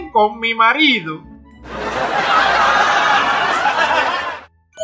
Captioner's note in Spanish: Risas